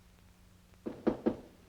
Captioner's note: knocking